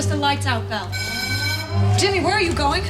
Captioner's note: alarm bell